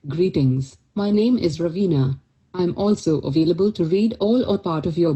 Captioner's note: speaking in Indian accent